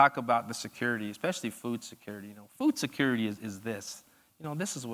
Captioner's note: none